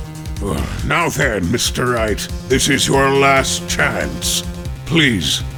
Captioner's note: groan